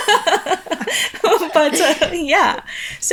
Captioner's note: chuckling